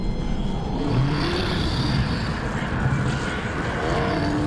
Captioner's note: disturbing instrumental music; growling